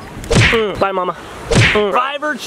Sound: punching fists

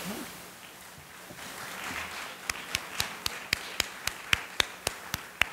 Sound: audience applauding

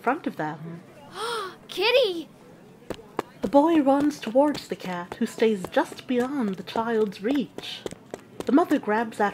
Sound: gasp

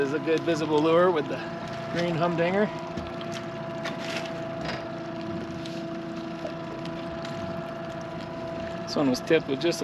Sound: boat engine idling

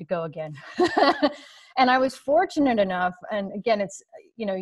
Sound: laughs

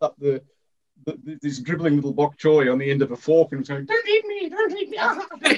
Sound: laughter

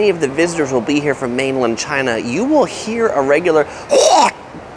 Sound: spits

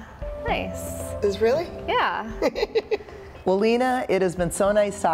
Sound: laughs

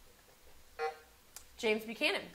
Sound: buzzer sounding

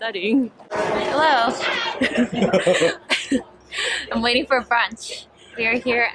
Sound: awkward laugh

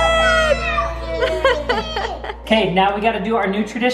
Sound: laughs

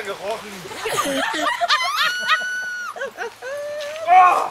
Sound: louder mean laughing

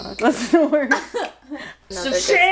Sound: laughs softly

